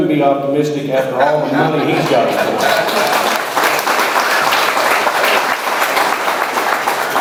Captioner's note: audience laughs; audience cheers